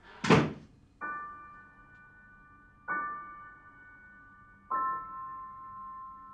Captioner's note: door thuds; slow melancholic music